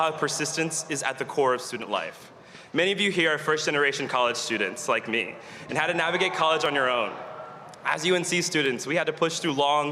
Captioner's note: applause